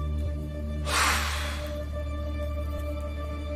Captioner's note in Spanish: Soplido